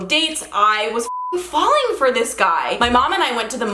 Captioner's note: beep